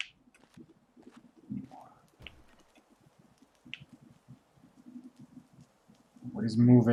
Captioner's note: rustling noise in background